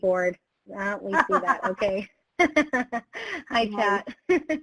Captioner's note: both laugh